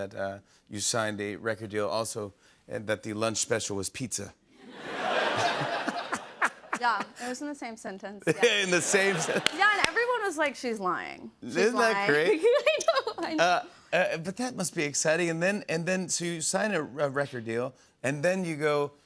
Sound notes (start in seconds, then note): 4.6 laughter